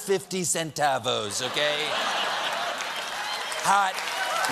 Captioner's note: laughter; applause